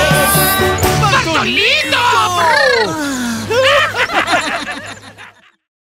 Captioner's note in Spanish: Sonidos de animales; Risas